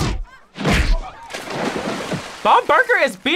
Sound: water splashes

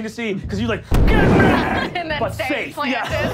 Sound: booming

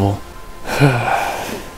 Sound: sigh

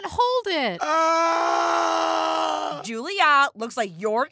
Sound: screaming

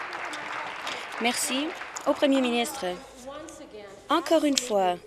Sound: applause

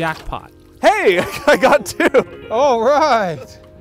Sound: laughing

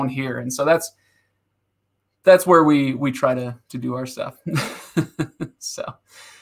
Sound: laughing

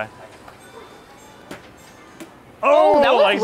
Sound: ball thudding

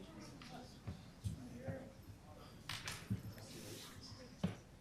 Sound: group chatter

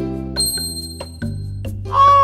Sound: ting

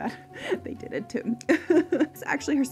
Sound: chuckles

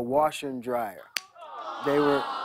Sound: audience awws

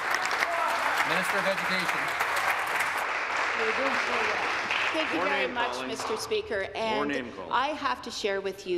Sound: applause

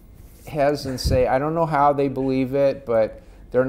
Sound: laughing

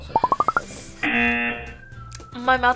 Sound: buzzer

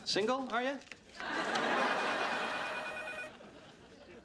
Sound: phone ringing

